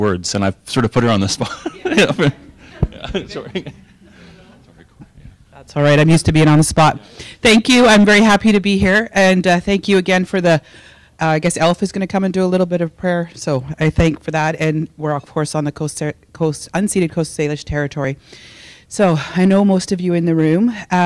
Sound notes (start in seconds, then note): 1.4 laughing